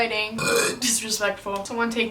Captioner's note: burps